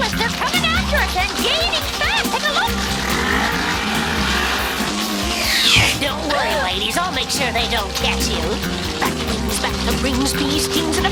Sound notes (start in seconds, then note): 4.1 engine gunning